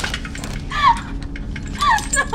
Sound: sobbing

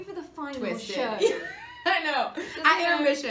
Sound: Kathryn laughs

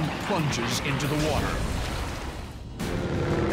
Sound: splashing

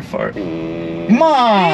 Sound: car farting

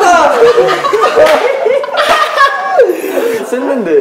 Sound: laughing

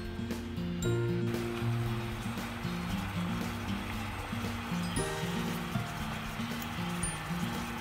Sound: more bubbling

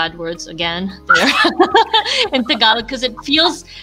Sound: laughs

